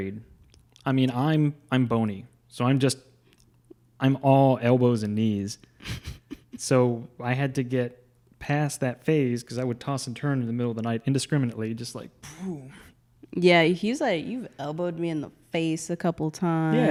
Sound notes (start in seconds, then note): 5.8 laughs; 12.7 grunts